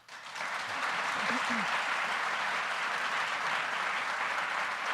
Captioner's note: audience applauding